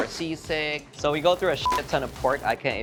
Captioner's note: beep